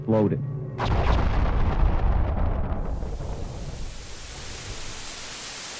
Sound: explosion; static Noise

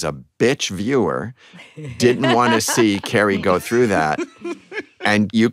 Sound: laughter

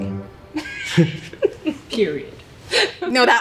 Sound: laughing

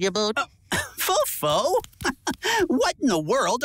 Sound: chuckles

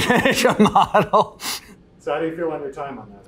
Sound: laughs

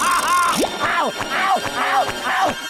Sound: moaning; screaming

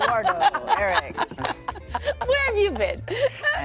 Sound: laughter

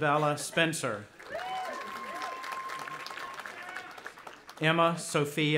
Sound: audience applauding

